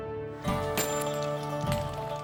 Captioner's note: bangs